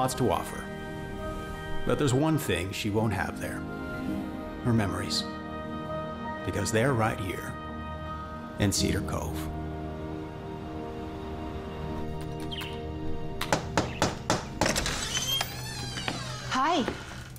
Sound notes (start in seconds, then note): 13.4 knock on door